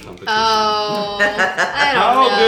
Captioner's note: laughing